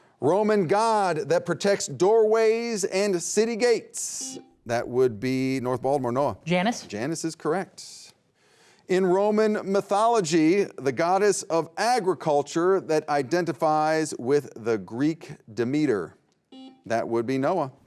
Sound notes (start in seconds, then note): 4.1 beep; 16.5 beep